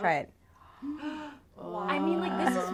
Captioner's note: gasps